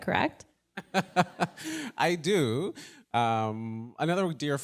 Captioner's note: laughs